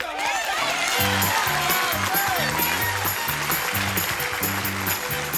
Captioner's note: applause